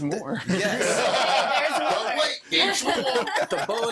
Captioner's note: all laughing; laughter drowns conversation